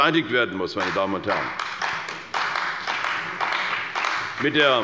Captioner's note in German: Beifall bei der CDU und dem BÜNDNIS 90/DIE GRÜNEN